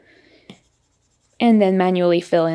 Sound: pen scribbling

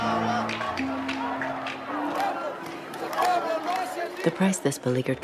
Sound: chanting

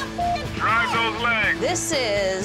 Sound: beeps

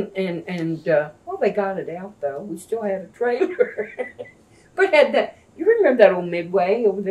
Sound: laughs

